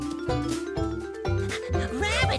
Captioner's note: panting